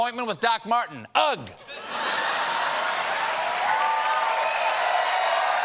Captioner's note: laughter; cheers and applause